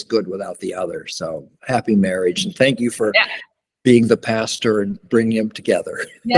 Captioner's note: laughs